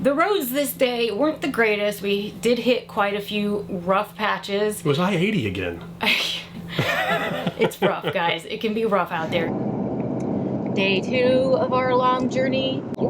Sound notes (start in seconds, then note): 6.6 laughs